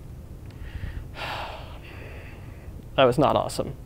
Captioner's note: sigh